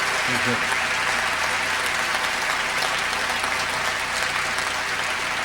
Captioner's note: applause continues